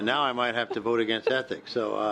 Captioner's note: laughter